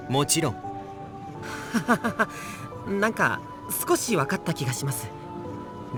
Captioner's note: awkward laugh